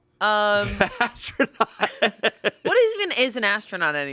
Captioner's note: laughs